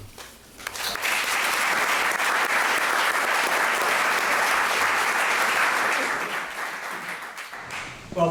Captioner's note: applause